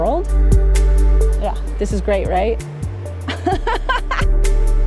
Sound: laughs

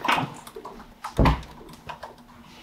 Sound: door closes

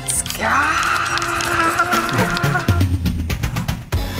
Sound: she fakes screaming

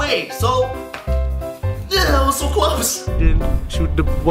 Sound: grumbles

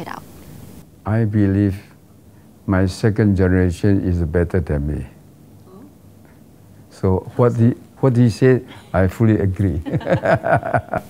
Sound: laugh

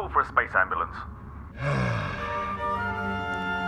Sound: sighing

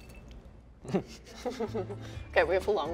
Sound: laughs

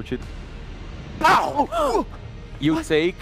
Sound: pow

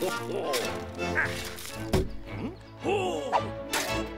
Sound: thudding

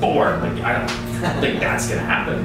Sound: laughing

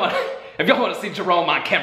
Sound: laughs

